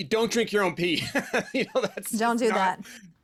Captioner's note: laughing